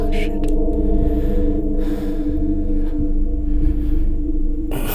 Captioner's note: breathing deeply